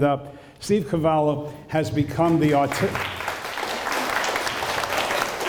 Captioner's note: applause